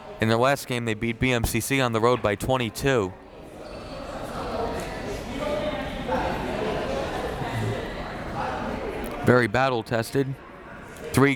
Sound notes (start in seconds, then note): 3.9 crowd members talking